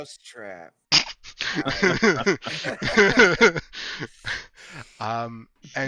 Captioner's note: laughter